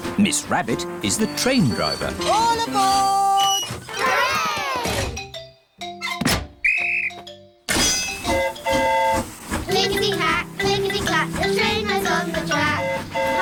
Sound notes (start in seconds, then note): 6.6 blows whistle; 6.6 train horn toots